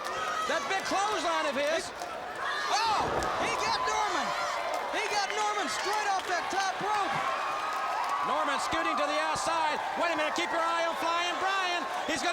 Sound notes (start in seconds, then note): 7.2 crowd cheering